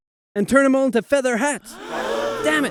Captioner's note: gasp